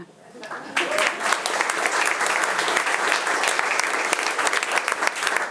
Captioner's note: attendees applauding